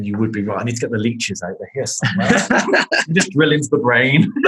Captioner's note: laughing